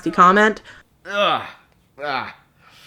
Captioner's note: grunts and groans